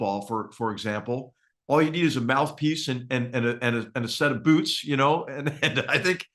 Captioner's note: laugh